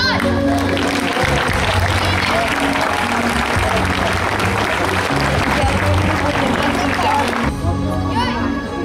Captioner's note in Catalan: Aplaudiments